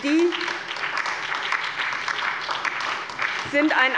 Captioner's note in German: Beifall bei der SPD, dem BÜNDNIS 90/ DIE GRÜNEN und der LINKEN